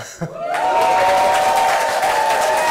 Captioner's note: cheering and applause